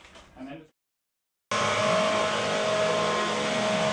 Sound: leaf blower noise

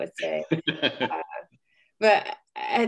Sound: laughing

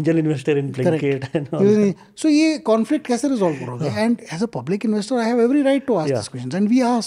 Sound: speaking in Hindi

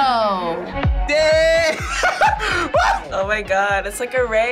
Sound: laughs

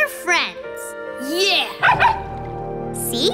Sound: barking

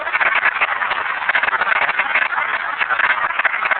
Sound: applause

